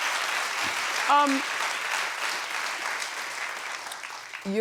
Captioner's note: audience applauds